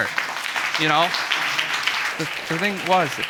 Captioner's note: audience applauding